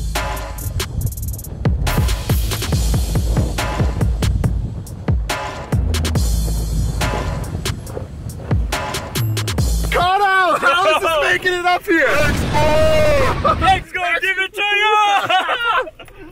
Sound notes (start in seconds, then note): 12.0 exploding; 14.9 laughing